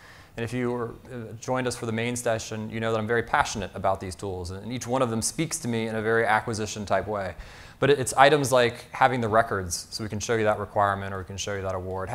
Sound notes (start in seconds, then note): none